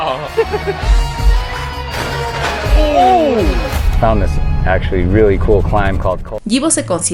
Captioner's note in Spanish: risas